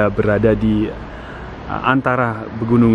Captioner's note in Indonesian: ehm